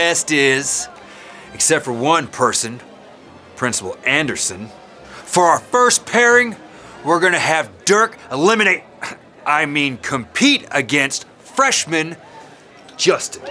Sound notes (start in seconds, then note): none